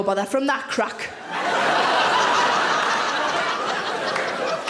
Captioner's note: audience laughing